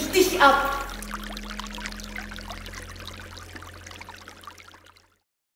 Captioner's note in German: Wasserplätschern